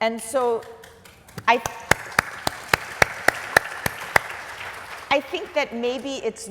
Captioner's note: applause